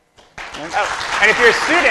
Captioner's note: applause